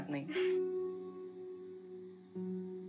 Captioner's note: Chuckles